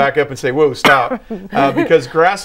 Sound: laughing

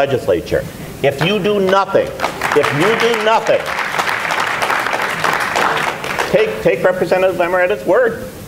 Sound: applause

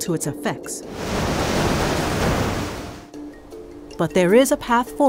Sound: waves crashing

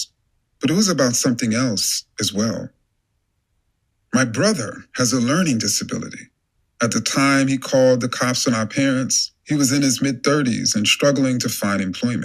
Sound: podcast playing

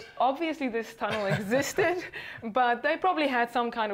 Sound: laughing

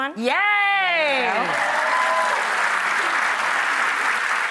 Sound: audience applause

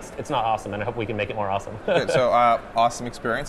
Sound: chuckles

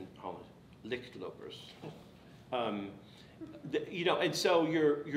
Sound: speaking foreign language

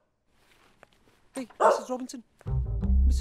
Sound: door opens

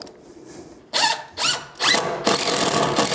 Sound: increasing screwing noise

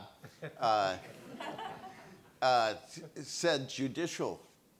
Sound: audience laughs

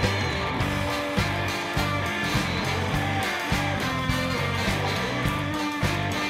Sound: funky rock music; audience clapping along

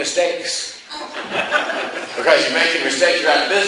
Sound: class laughs

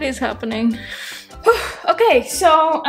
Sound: sighs

